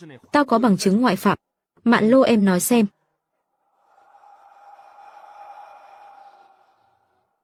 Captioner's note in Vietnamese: hò reo